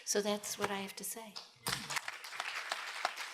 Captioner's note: applause